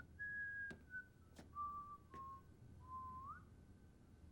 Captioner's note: Gordon whistling